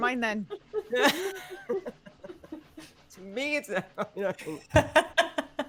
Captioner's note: laughing